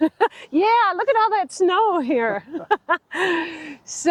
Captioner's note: laughing